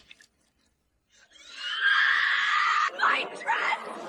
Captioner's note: screaming